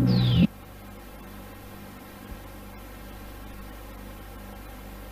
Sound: VHS static

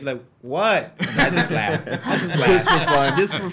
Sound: laugh

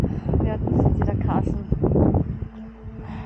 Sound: wind

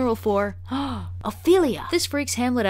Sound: gasp

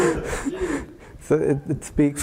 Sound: laugh

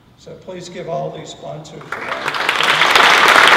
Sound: applause

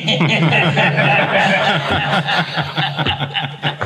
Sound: everyone laughs

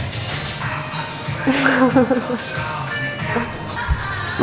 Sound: laughs

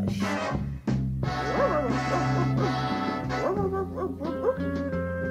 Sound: barks

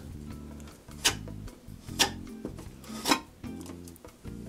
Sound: scrapping noise

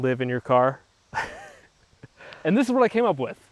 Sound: laughs

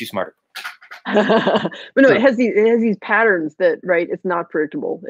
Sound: laughing

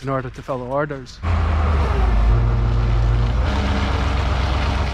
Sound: forklift running

